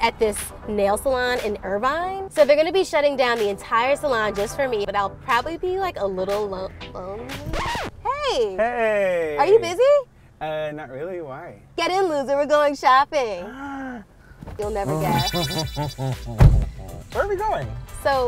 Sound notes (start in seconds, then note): 7.4 record scratches; 13.4 gasps; 14.8 laughs